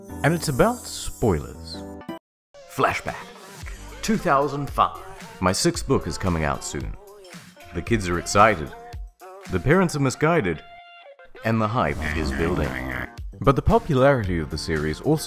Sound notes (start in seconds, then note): 11.3 hype noises